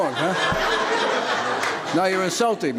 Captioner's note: spectators laugh